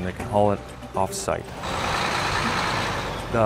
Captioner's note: truck engine running